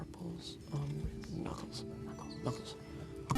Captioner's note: whispering